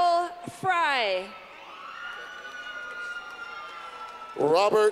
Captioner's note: clapping